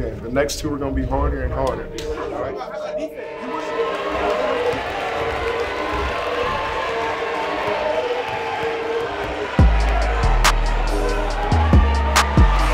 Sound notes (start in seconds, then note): 4.5 audience cheering; 9.4 trap music